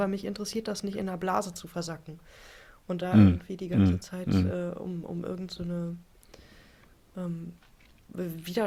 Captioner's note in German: räuspern